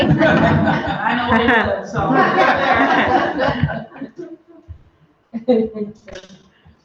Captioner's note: laughter